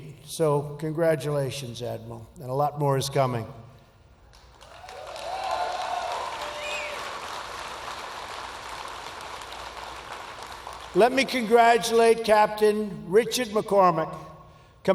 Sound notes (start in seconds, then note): 4.4 applause